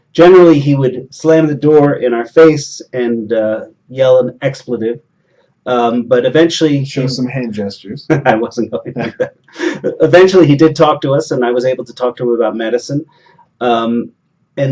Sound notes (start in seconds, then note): 7.4 chuckle